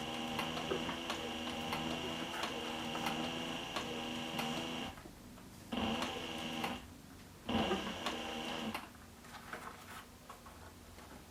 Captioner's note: sewing Machine Sound